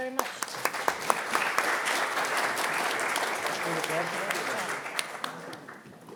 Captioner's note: audience and applauding